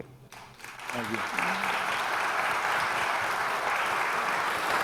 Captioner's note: audience applause